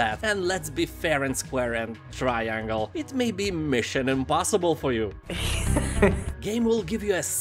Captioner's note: Tom Cruise laughs